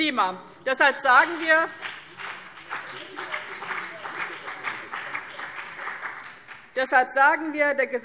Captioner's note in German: Beifall BÜNDNIS 90/DIE GRÜNEN